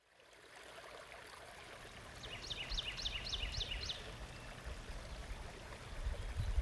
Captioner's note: water babbles; birds sing